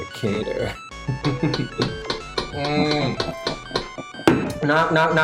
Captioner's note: knocking